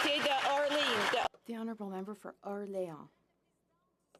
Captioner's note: some Applause